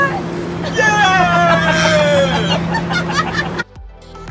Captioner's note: squeals; laugh; upbeat music